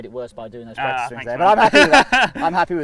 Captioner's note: laughing